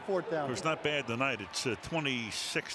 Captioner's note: pa announcement